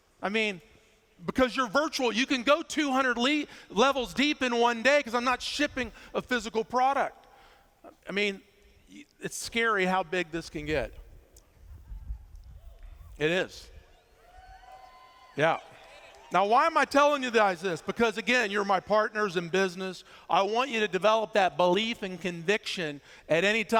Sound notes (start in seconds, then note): 14.1 cheers